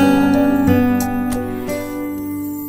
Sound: car door closes

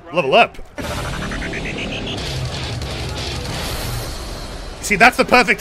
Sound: MW Level Up SFX

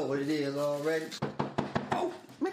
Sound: door knocks

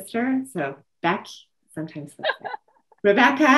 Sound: laughter

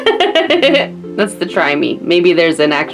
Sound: laughs

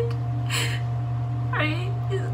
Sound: crying

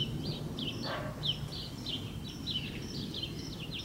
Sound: birds chirping; dog bark

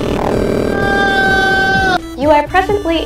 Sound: screaming

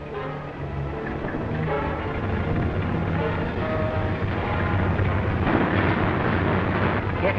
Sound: dramatic music; airplane engine puttering

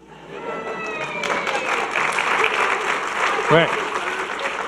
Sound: audience clapping and cheering

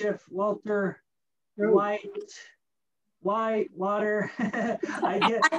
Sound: laughing

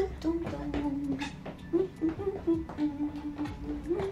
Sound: vocalizes

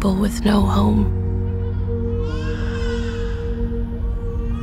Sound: baby crying

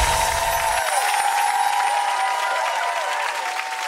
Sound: audience clapping; audience cheering

